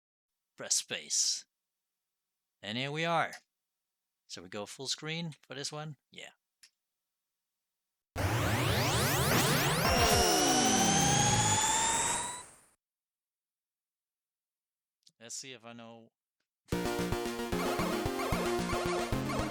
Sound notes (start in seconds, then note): 8.1 game sound starts